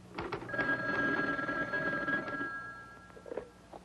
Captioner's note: phone ringing